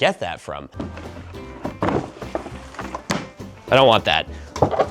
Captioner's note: shuffling; clattering